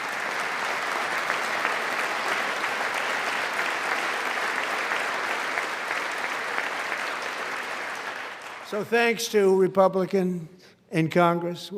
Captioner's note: applause